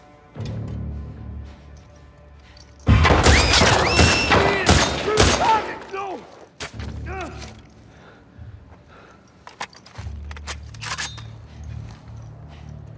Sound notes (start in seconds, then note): 2.8 urgent whistles!!!